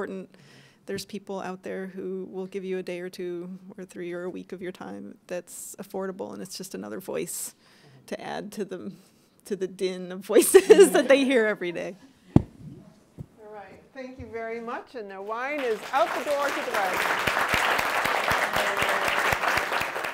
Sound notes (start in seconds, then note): 17.1 applause